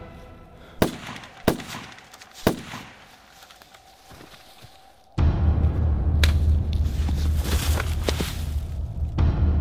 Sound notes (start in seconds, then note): 0.8 gunshots bang; 5.3 deep tense music